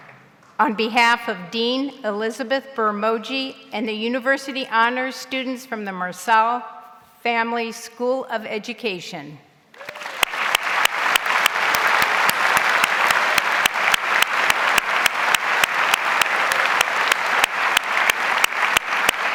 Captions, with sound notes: On behalf of Dean Elizabeth Birr Moje and the university honors students from the Marsal Family School of Education. (audience applauds)